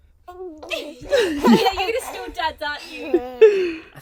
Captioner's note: laughing